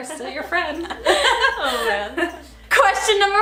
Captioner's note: laughs